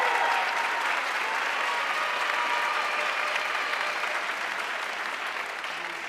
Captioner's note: audience cheering and applauding